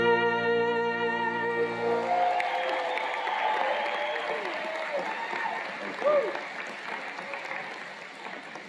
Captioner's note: cheers and Applause